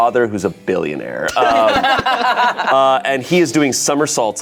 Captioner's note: group laughs